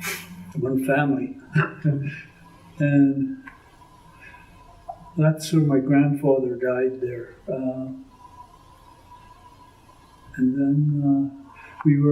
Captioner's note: laughs